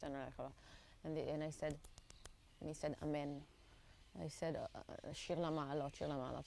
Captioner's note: hebrew